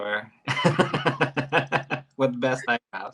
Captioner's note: laughs